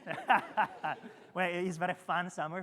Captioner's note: attendees laughing